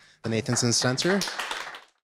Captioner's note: audience clapping